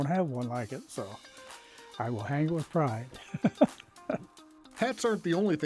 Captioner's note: laughs